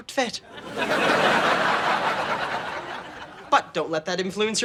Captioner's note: audience laughing